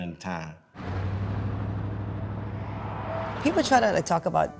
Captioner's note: engine humming